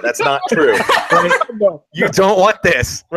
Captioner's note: laughing